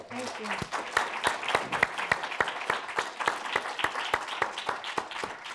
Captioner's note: applause